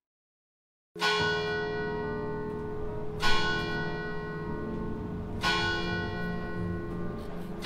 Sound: school church bell rings

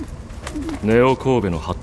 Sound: dove coos

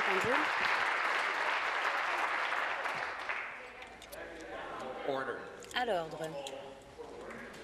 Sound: applause

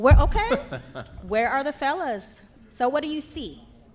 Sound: laughs

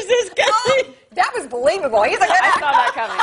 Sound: laughter

